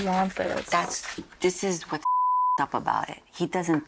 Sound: beep

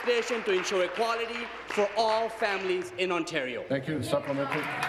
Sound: applause

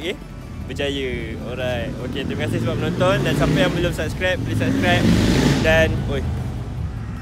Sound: loud sound from motorcycle

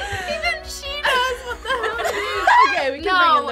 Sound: laughs

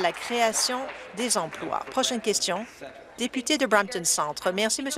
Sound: applause

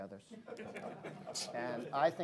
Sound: laughter

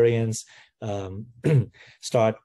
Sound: cough

